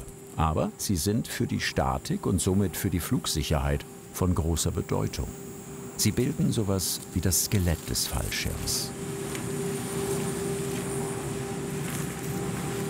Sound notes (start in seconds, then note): 9.9 machine whirring